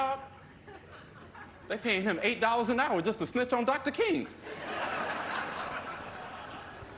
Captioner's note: laughter